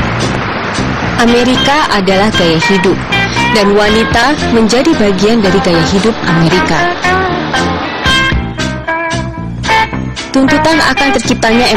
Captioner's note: non-english speech